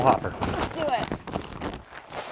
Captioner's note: sack rustling